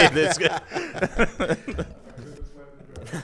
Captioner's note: laugh